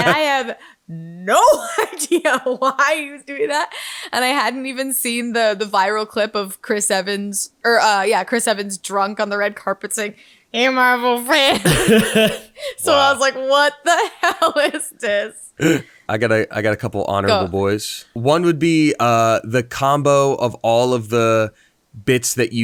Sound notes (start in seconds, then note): 14.4 laughing